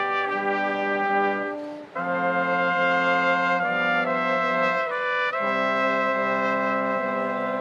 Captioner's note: none